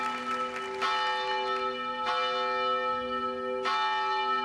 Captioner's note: audience applause; bells chime